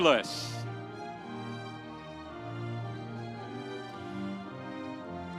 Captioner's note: audience cheering